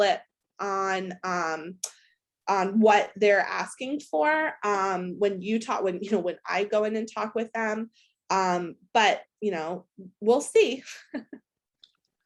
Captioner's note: laughs